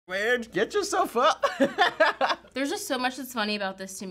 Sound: laughs

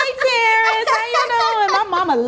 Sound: laughing

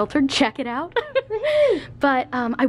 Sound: laughs

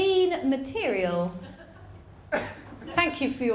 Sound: ripple of laughter

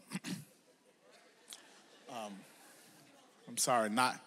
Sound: audience laughs

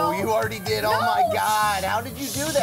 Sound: shushes

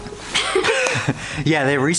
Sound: both laughing

